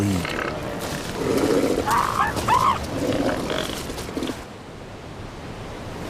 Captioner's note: seal barking